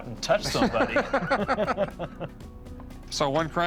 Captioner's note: all laughing